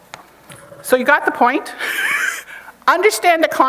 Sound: chuckles

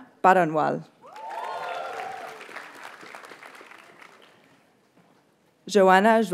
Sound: audience cheers and applauds

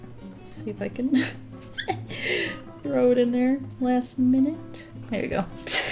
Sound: laughs

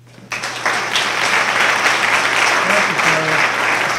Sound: applause

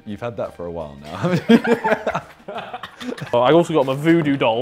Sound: everyone laughing

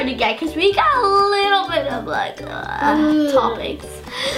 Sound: groans

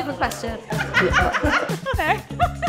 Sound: people laughing; both laughing

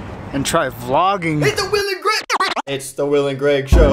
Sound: record scratch

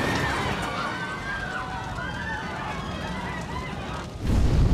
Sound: passengers scream

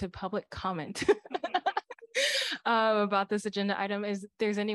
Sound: laughter

